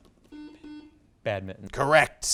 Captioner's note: buzzer beeps